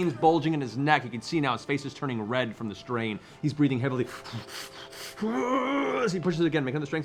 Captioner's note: pants